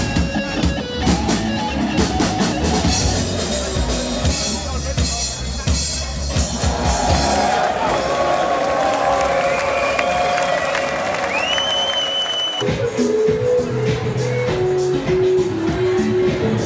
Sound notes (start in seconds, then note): 6.6 crowd cheers and applauds; 12.6 rhythmic rock music